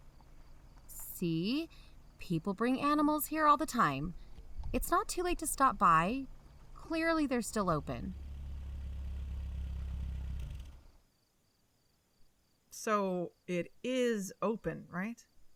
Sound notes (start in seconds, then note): 8.3 they park, engine stops